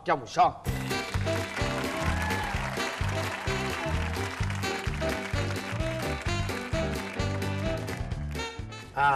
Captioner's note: applause + Music theme